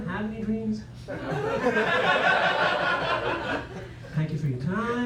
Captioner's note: laughter